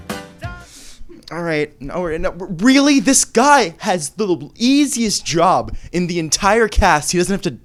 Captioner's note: stammers